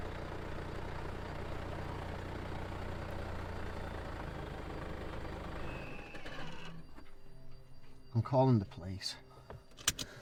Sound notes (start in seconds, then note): 6.2 vehicle turns off; 6.9 soft dramatic music